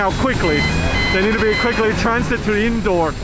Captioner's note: loading vehicle beeping